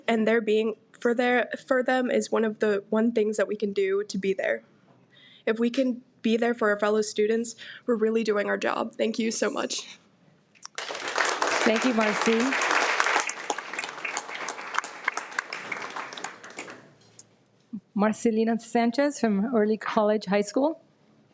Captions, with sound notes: and they're being for them is one of the one things that we can do to be there. If we can be there for our fellow students, we're really doing our job. Thank you so much. (audience applauds) - Thank you, Marci. Marcelina Sanchez from Early College High School.